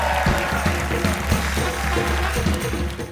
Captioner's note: cheers and applause